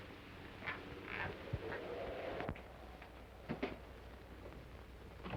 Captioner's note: wind howling